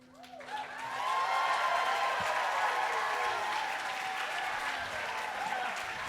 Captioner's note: crowd applauding; crowd cheering